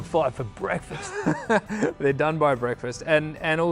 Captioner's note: laughs